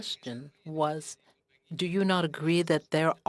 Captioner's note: speaking French